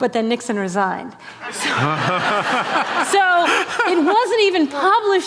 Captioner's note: laughter